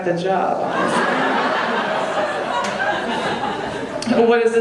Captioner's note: audience laughing